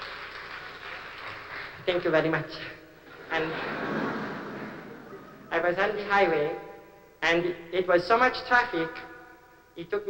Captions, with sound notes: [APPLAUSE] THANK YOU VEDDY MUCH. AND... [LAUGHTER] I WAS ON THE HIGHWAY, AND IT WAS SO MUCH TRAFFIC,